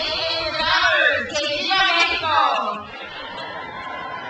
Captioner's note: speaks in foreign language; crowd cheers